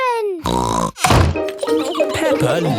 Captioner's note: snorts